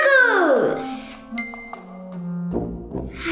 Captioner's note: ding; sighing; spooky music